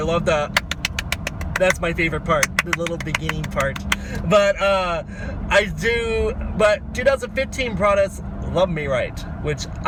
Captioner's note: claps